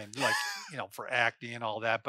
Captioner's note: laughs